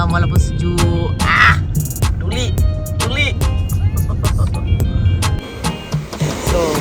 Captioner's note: laugh